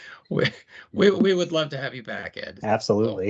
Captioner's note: chuckle